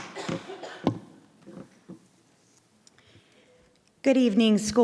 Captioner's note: gavel banging